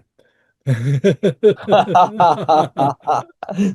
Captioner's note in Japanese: 笑い